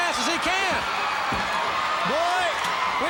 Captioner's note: crowd cheering